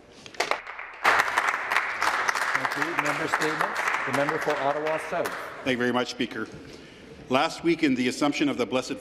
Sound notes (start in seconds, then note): 3.8 applause